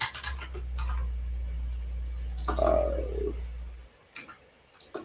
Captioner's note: keyboard clacks